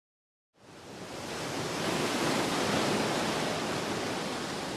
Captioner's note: waves crashing